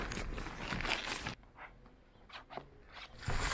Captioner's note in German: leises quietschen